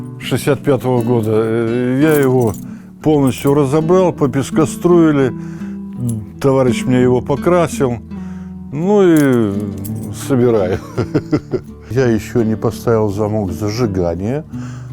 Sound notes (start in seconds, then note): 10.4 laughs